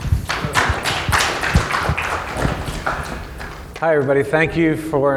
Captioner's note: audience applauding